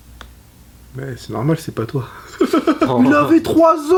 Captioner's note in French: rire